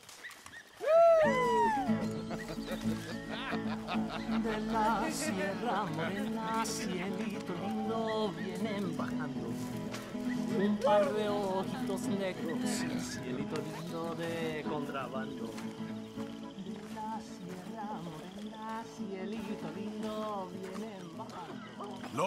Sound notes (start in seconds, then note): 5.7 in Spanish